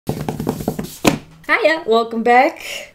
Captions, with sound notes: [Drumming on table] Hiya, welcome back.